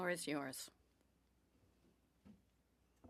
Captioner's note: speaking French